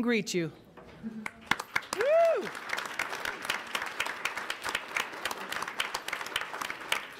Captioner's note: audience applauds; cheers